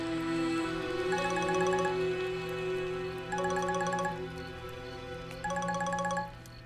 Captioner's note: Phone ringing